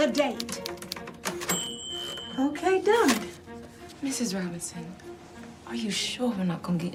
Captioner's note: typewriter dings